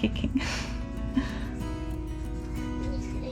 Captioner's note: laughs